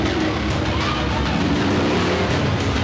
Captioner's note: shouting; engine revving